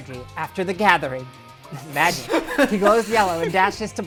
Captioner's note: multiple people laugh